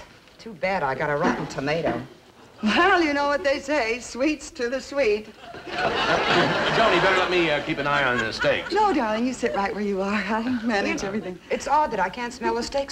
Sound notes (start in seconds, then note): 5.4 audience laughing